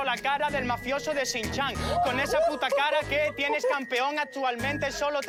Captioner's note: shouts